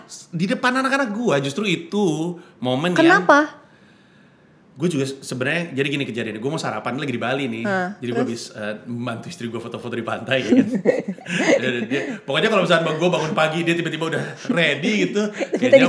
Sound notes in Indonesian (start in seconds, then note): 10.3 tertawa